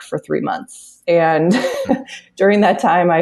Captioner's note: laughs